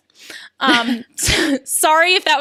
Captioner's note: laughs